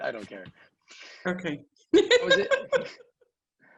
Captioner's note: laughs